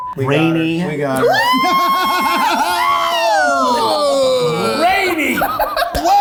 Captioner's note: beep; exclaiming